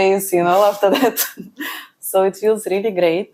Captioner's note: laughs